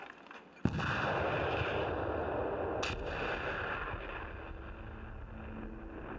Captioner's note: explosion